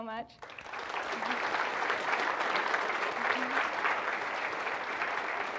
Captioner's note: audience applauding